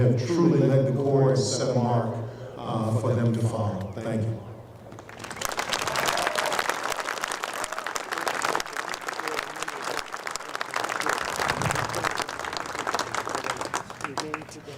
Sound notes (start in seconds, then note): 4.9 applause